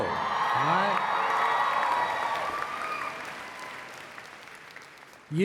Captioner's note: applause